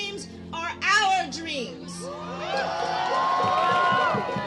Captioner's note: crowed cheers